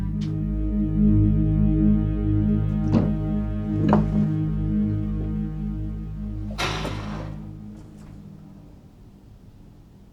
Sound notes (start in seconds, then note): 0.3 eerie music; 6.5 metal door clangs